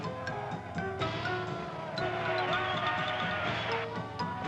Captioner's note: people cheering